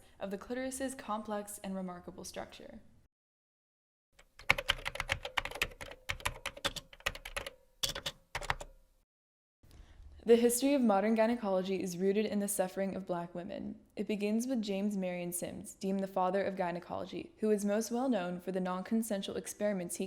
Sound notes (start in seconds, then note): 4.2 typing